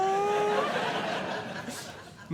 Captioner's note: audience Laughing